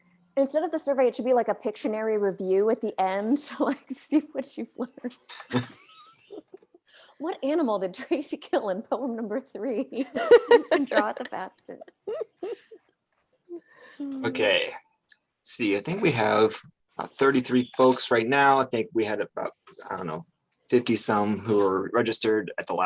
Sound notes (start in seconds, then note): 5.8 both laugh